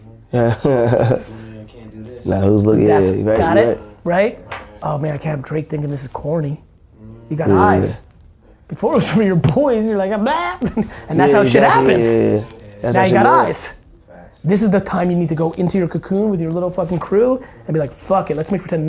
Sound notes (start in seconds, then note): 0.3 laughing; 9.9 screeching; 10.6 chuckles